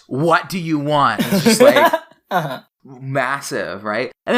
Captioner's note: laughs